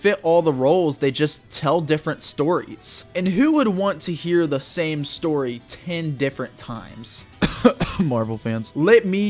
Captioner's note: cough